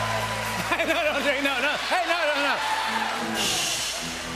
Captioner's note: cheers and applause; laughs